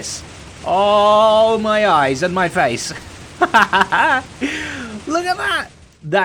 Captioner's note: laughing